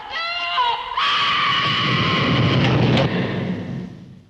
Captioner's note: scream!; trap door rumbles shut!